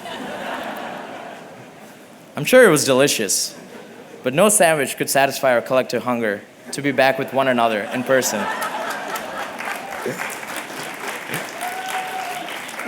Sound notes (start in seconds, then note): 0.0 laughter; 8.5 applause; 10.2 laughter